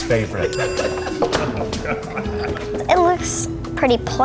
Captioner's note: guys laughing and snickering